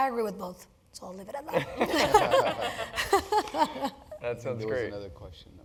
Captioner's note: laugh